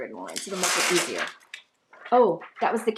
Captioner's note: sticky mat screeching